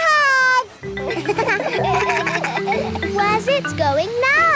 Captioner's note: kids laugh